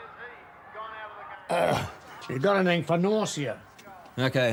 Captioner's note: groans